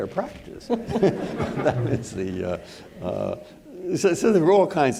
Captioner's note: all laughing